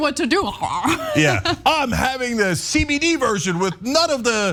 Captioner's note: laugh